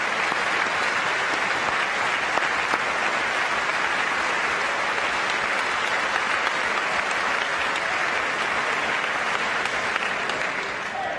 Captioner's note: applause